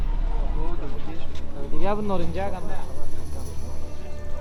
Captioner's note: people chattering